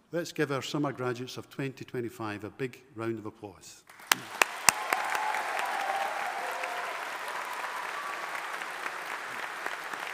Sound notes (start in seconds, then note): 3.9 audience applauding